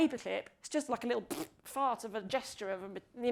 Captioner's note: blows raspberry